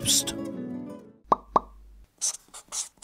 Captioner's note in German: Gitarrenmusik; Ploppgeräusche